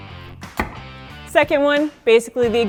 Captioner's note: ax striking